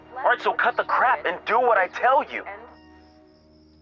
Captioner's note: none